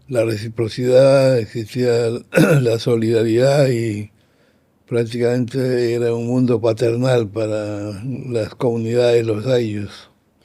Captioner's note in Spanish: carraspeo